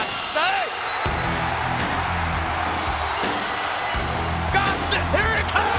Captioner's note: audience cheering; rock music